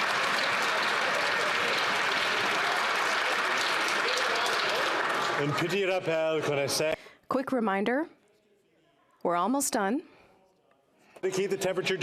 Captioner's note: some Applause